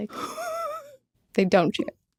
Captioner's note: wheezes